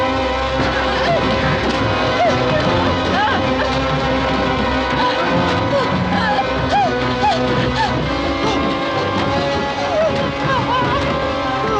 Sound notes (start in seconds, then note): 2.0 whimpering; 4.9 gasping